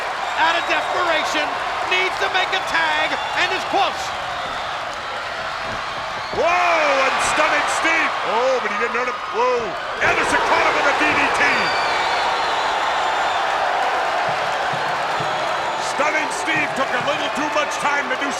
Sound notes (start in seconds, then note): 9.9 body thudding; 14.0 crowd cheering